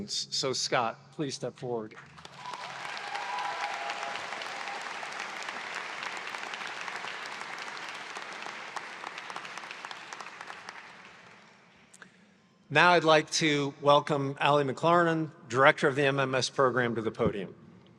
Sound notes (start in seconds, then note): 3.0 audience cheers